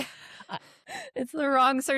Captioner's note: laughter